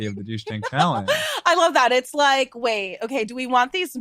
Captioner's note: laughs